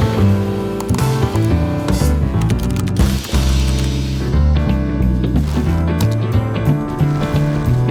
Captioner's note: clicking and typing